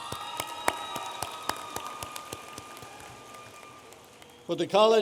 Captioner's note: audience applauding